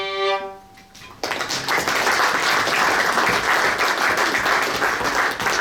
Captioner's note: audience applauds